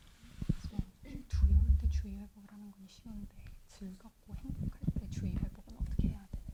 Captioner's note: translator speaking in foreign laughing